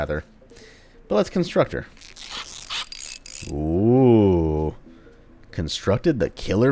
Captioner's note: tinkering noises